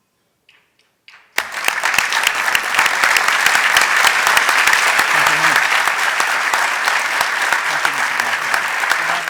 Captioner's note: applause